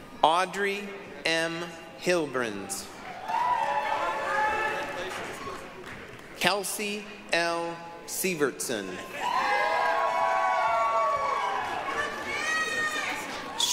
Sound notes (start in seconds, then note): 3.0 applause, cheering; 9.1 applause, cheering